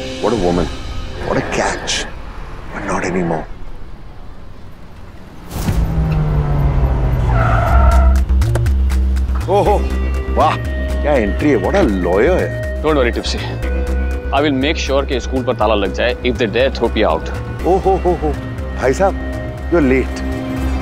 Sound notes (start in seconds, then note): 7.0 Car halting; 8.5 Car door opens